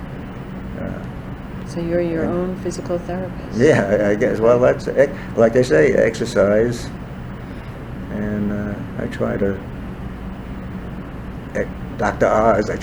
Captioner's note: laughs